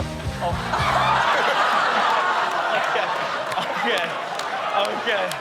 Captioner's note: all laughing